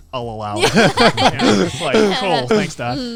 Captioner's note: laughing